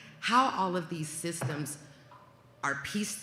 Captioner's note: none